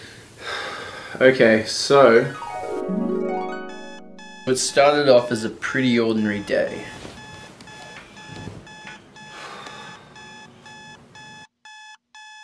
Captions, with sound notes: [deep breath] Okay so... [dreamy harp] [alarm clock buzzing] It started off as a pretty ordinary day